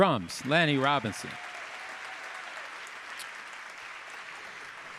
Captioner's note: audience applauding